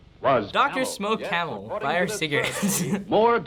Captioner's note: laughs